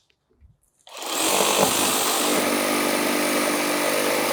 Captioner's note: machine drilling